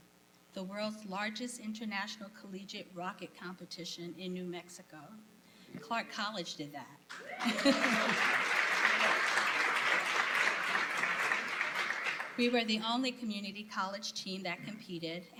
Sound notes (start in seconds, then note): 7.1 applause